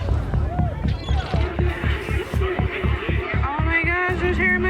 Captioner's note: seagulls screeching